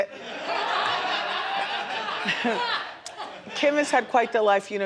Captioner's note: crowd laughs